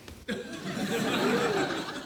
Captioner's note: laughter